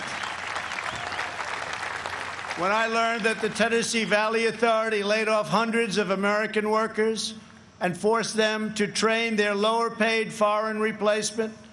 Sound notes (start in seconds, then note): 2.1 applause